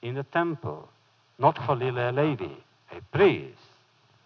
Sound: foreign language

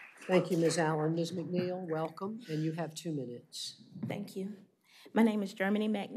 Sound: applause

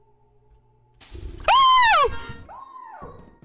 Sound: screaming and honking echoes; screams, horn honks; laughs

